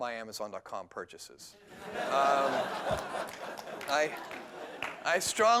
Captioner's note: laughter